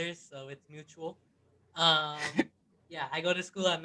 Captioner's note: laughter